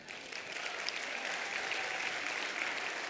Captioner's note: applause